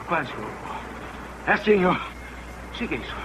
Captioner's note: grunts